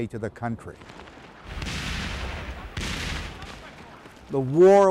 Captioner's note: artillery explodes